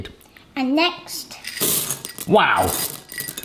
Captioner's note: chocolate chips clattering